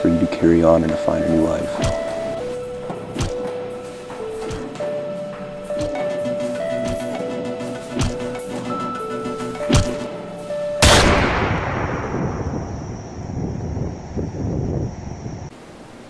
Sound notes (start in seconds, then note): 10.8 gunshot